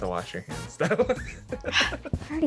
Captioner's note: starts laughing